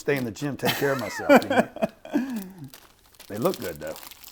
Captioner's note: laughing